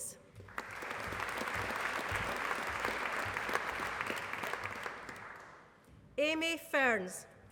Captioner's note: applause